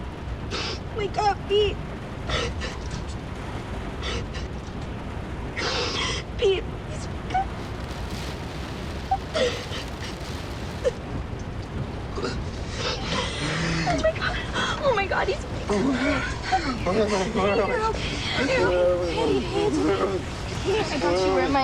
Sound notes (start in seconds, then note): 13.0 moaning